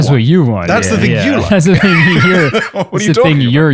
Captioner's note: laughs